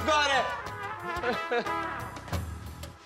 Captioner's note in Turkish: Gülme sesi